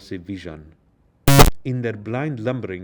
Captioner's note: static crackling